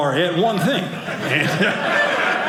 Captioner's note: audience laughing